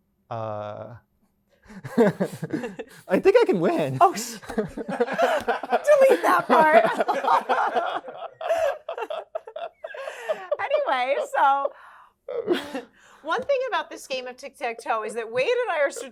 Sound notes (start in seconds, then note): 1.8 laughs; 8.9 laughing